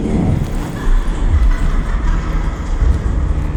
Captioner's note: distant laughter